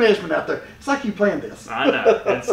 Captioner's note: chuckling